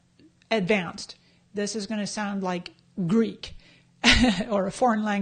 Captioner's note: laughs